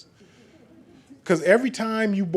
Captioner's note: laughing